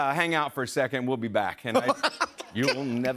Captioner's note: laughter